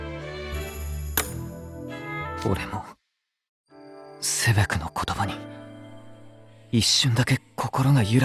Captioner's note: none